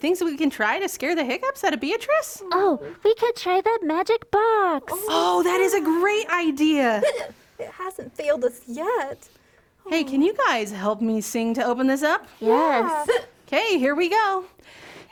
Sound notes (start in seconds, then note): 7.0 hic; 12.9 hic